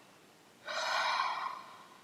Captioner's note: exhale